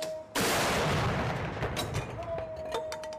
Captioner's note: gunshots